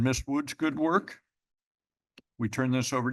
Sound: pause

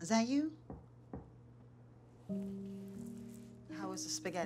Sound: knocks

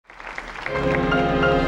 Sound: audience applauds; gentle music

